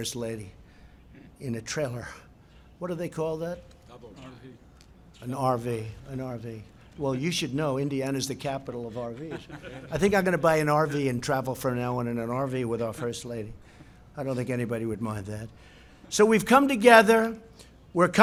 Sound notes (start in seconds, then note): 8.9 laughter